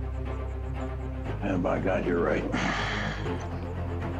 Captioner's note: sighs